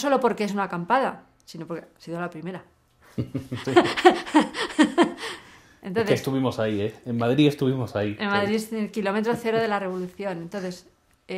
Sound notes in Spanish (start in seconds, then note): 3.0 risas